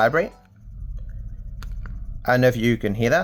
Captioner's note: low humming sound